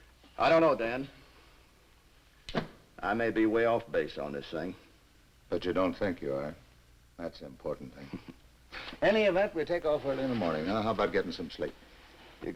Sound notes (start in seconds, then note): 8.3 Quent chuckles